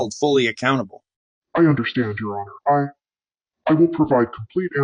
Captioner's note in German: verzerrt